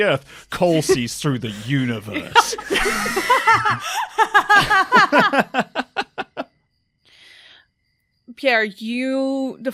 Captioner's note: more laughter